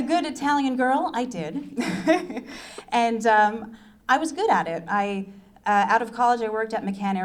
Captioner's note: laughs